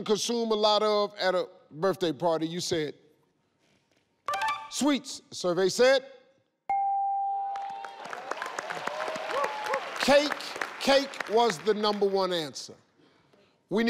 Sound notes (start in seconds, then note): 6.6 scoreboard dings; 7.6 audience cheers